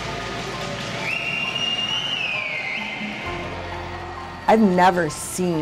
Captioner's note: cheering / chanting